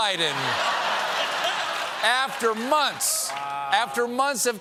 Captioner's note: laughter; applause